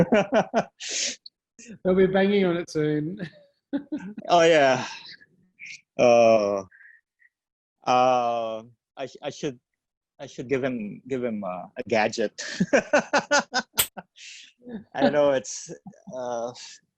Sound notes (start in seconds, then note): 12.4 laughs